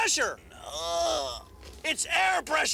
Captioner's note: groans